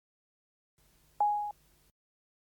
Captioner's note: beeps